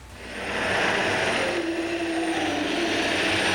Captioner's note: roaring